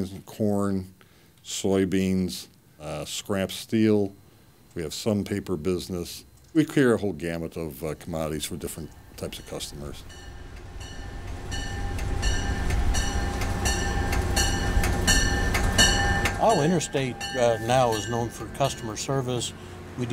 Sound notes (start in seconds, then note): 11.4 railroad crossing bells clanging